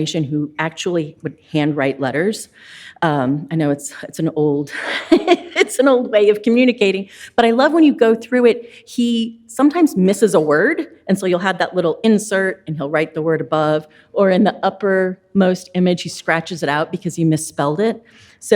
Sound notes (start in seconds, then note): 4.8 laughs